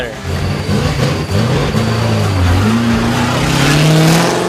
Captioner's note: engine revving